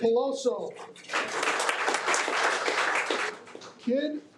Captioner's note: audience applauding